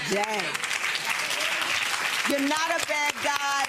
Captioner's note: audience applause